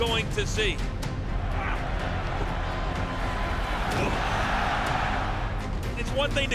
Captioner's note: dramatic music; crowd roaring